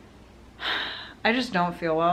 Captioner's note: sigh